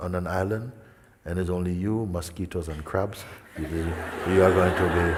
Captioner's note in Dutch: gelach